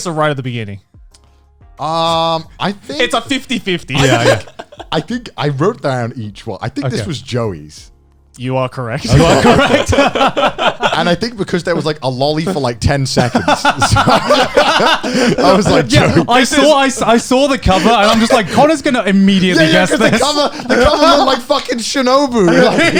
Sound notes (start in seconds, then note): 9.0 both laughing; 14.9 all laughing